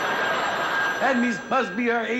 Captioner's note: phone rings